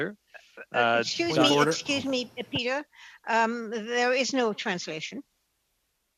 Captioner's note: speaking French